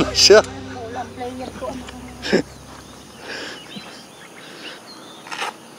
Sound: laughs

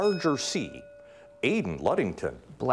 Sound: bell ringing

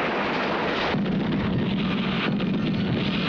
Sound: explosion

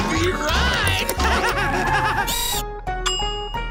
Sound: laughing

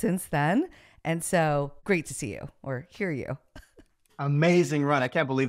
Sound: chuckles

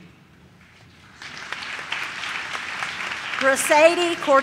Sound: audience claps

